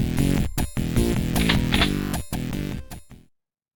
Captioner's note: shotgun load